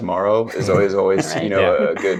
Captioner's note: laughing